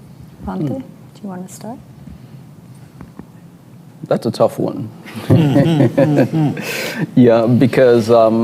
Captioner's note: laughter